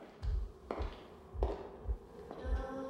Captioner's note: footsteps